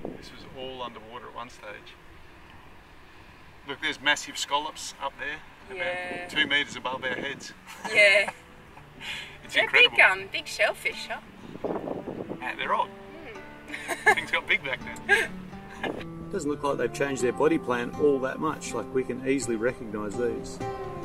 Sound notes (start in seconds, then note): 7.6 laughs; 13.7 laughs